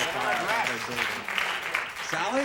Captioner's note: buzzer